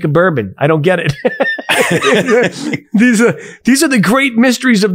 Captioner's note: both laughing